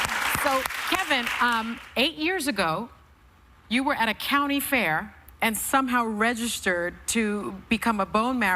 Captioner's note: cheers and applause